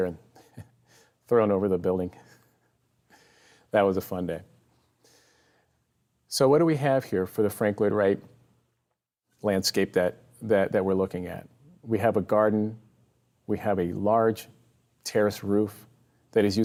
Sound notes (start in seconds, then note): 3.4 chuckles